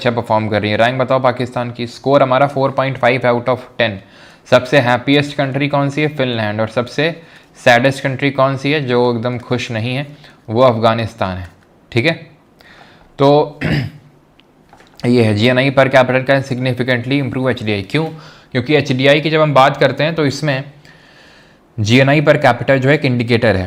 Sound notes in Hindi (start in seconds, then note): 13.6 गला साफ़ करने की आवाज़